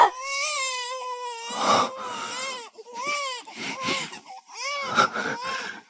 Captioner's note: joyful cries